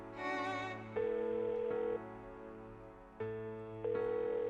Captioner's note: phone ringing